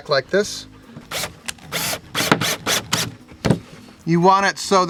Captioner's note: drill drilling